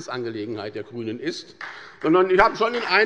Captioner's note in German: Beifall bei der SPD und der FDP